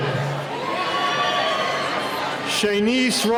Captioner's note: cheering